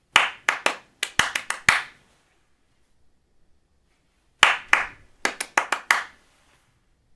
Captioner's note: clapping